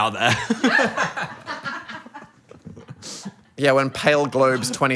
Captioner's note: Phil and crew laughing